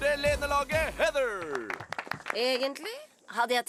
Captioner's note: applause